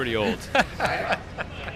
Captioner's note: laughs